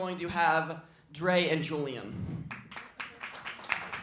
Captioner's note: applause